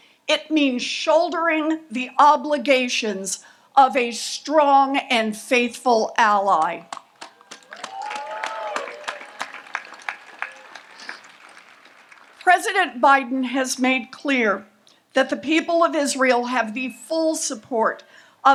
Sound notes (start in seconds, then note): 7.0 audience applauds